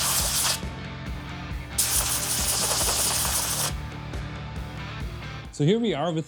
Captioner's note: upbeat music; drill whirring